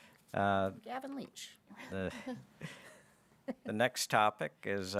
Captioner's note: chuckles